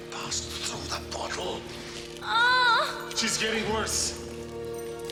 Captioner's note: groaning